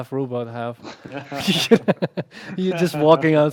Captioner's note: laughter